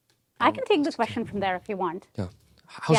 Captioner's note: Somali